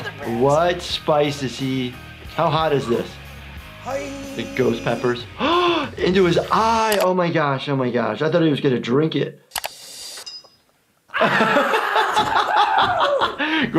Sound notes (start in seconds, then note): 5.8 gasps; 11.1 laughing